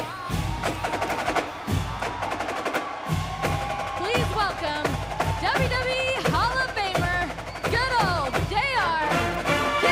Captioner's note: crowd cheering